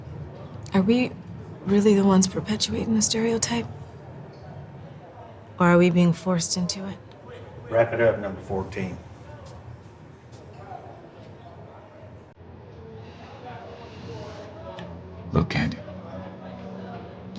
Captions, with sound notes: - Are we really the ones perpetuating the stereotype, or are we being forced into it? - Wrap it up, number 14. (people chattering) - Look, Kandi.